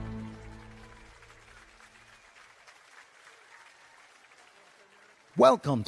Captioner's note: applause